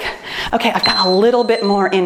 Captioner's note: timer beeps